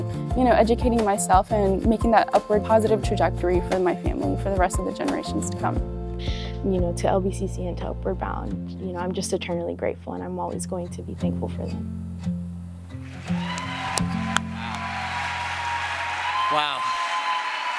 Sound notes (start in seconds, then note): 11.8 music fades out; 13.0 crowd applause